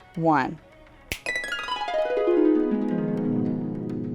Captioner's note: snap